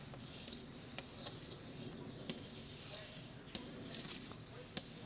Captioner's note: chalk on chalkboard